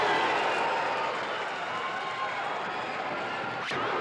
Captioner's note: crowd cheers